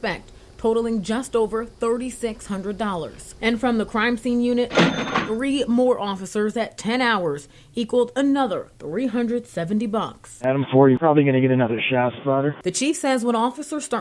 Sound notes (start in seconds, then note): 4.6 nats money counting machine